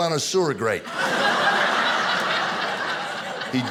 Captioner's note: audience laughing